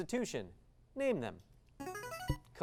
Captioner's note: device sound